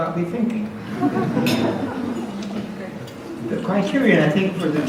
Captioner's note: audience laughs